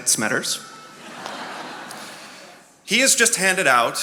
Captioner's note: attendees laughing